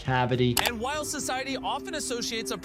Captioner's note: mouse clicking